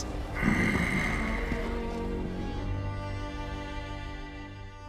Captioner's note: Lurch groans